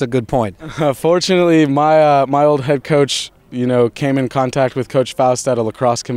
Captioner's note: laughs